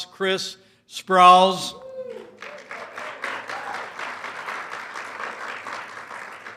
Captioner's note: applause